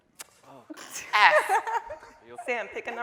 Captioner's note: laughing